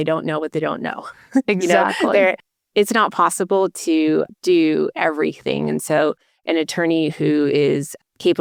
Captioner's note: chuckling